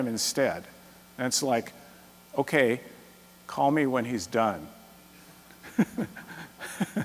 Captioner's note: laughs